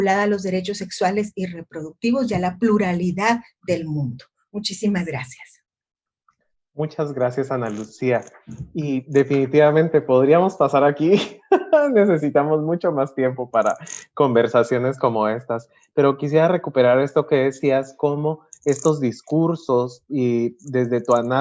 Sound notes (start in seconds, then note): 11.0 laughs